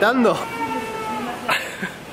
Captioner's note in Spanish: niño llorando